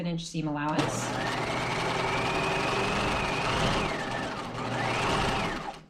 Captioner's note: sewing machine whirring